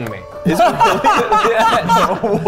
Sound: laughing

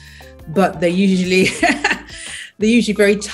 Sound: laughs

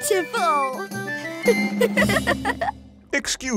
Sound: giggling

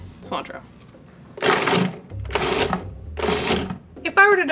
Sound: processor whirring

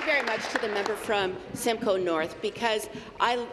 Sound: applause

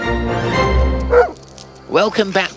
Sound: dog bark

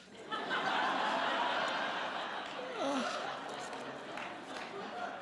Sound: laughing

